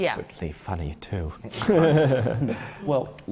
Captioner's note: laughs